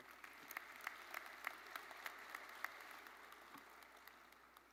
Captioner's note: audience applauding